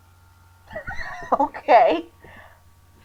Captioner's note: wheezing